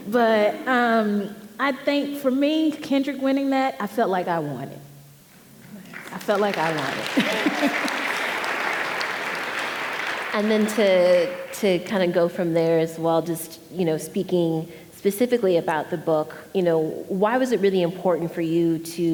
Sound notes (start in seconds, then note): 5.9 audience applauding